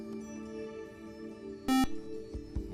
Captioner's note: buzzer